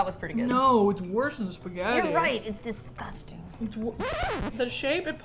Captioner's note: record scratch